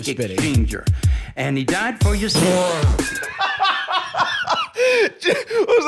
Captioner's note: bursts out laughing